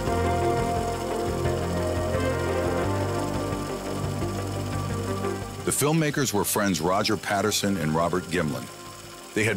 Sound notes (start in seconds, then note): 2.7 reel flickering continues; 2.7 suspenseful music continues